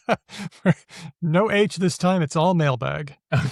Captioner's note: laughs